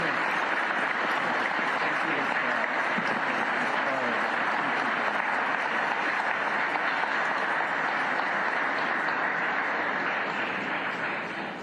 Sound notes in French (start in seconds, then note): 7.0 applause